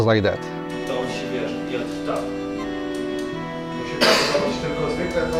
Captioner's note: speaking Polish